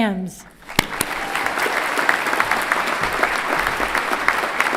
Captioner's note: everyone clapping